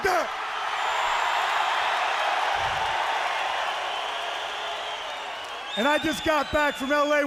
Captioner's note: crowd cheering